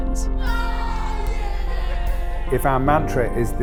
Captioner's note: cheering